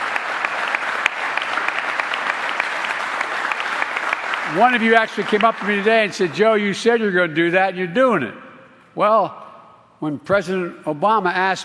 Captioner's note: applause